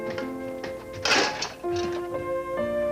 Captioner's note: rattling